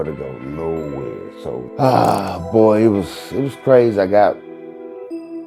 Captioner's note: sighing